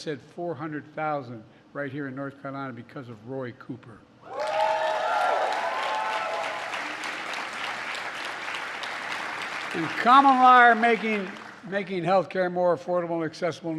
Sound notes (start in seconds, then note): 4.3 applause